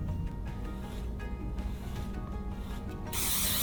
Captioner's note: gentle beard brushing ASMR